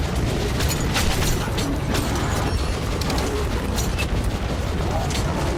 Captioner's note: guns firing continues